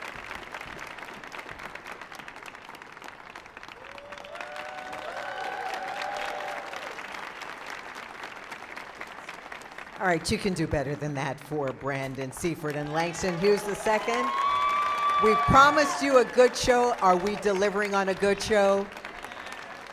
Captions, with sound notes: - All right, you can do better than that for Brandon Seaforth and Langston Hughes II. (audience applauding and screaming) We promised you a good show. Are we delivering on a good show?